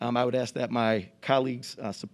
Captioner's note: none